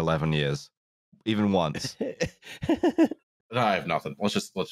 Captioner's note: laughs